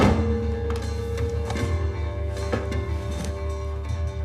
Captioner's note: Knocking